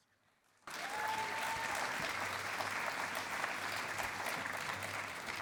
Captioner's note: cheering and applause